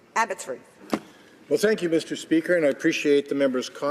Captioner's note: speaking French